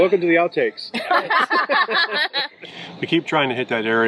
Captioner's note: laughing